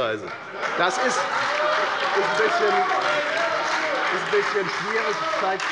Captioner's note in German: Lebhafter Beifall bei der FDP, der SPD und der LINKEN